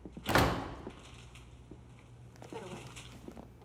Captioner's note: door creaks